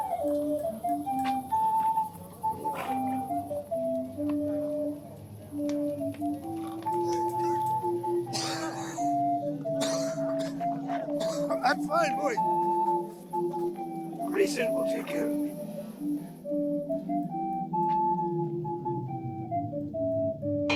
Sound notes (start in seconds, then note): 0.0 lively flute music continues; 8.3 man coughing; 16.2 lively flute music continues